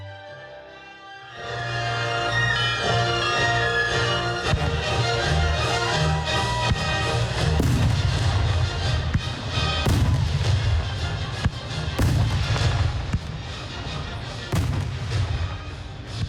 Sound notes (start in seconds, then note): 1.3 dramatic music; 7.4 fireworks exploding; 10.6 dramatic music